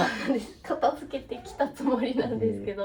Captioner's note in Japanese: 笑い